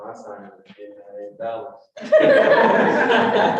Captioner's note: speaks faintly; all laughing